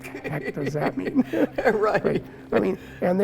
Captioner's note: laughing